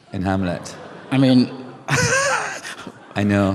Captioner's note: shocked laughter; laughs